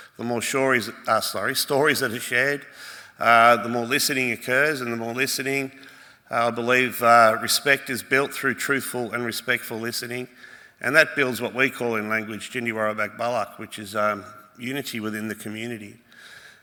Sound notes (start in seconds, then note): 12.8 speaks Woiwurrung